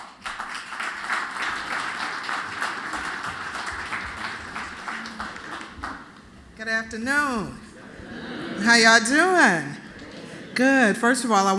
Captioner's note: applause